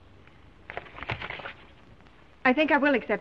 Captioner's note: papers rustling